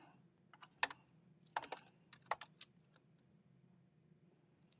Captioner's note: keyboard clanking